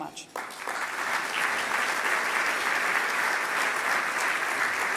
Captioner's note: audience applauding